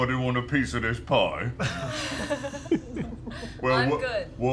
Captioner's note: laughter